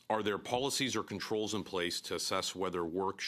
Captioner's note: speaking in French